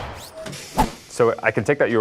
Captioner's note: swoosh